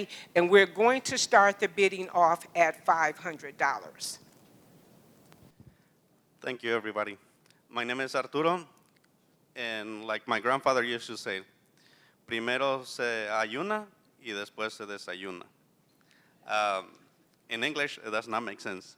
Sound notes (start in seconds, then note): 11.8 non-english speech